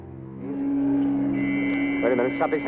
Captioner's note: alarm buzzing